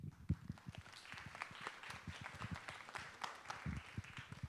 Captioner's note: audience applauds